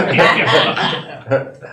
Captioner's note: laughter